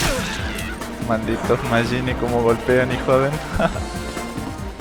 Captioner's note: laughs